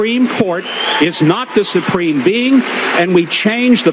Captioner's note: cheering